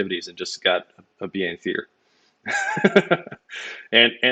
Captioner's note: laughs